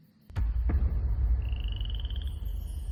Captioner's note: cinematic hit